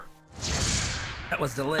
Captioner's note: fwoosh